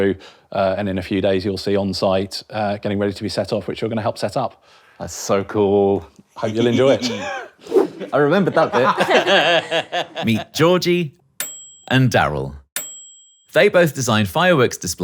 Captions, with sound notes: and in a few days, you'll see on site, getting ready to be set off, which you're gonna help set up. - That's so cool. (giggles) - Hope you'll enjoy it. (chuckles) - I remembered that bit. (all laugh) Meet Georgie, (bell dings) and Darryl. (bell dings) They both design fireworks displays,